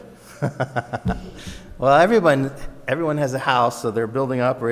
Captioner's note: laughs